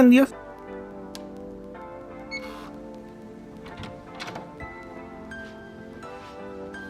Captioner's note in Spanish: apertura de puerta con tarjeta llave